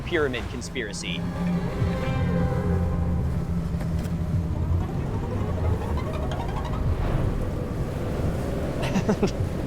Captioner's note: wind blowing; laughs